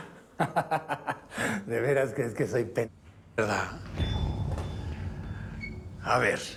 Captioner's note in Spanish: risas